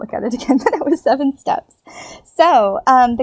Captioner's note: giggles